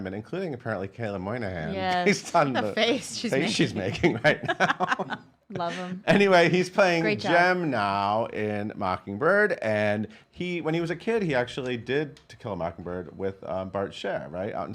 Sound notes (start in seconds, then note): 1.7 laughs; 3.5 laughs